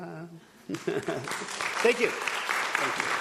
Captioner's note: audience applauding